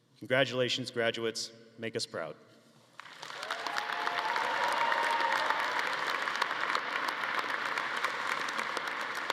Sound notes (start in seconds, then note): 3.0 audience applauding